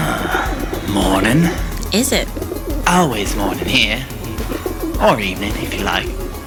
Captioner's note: clears his throat